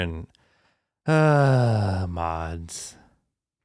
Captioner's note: sighs